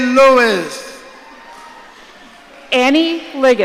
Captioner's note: audience cheering